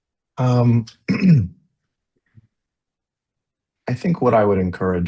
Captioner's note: clears throat